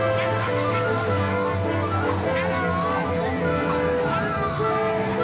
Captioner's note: men yelling